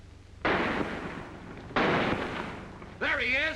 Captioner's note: gunshots